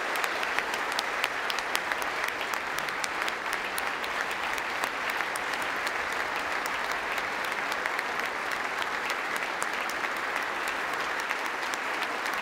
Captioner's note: applause